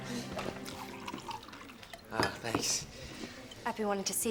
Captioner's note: Ram sighs; liquid pouring